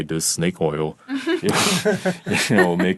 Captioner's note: all laughing